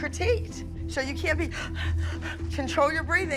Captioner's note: panting